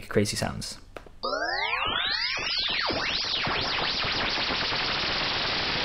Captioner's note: sounds Similar to Retro Shooting Video Games; sound Gets Faster